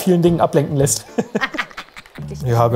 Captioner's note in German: Finsteres Kichern